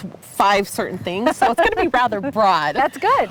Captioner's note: laughing